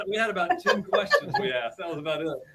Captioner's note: chuckles